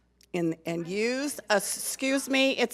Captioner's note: speaks off microphone